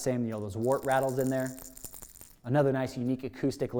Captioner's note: bait rattling